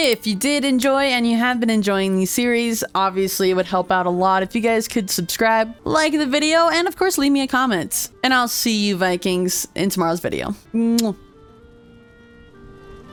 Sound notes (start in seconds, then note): 10.8 kiss